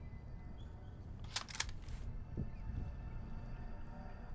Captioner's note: gun clicks